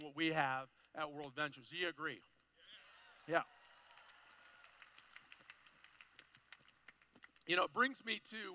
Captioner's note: cheering